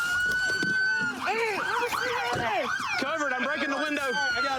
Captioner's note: shouting